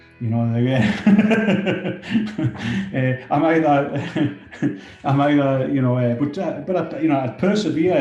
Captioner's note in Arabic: يضحك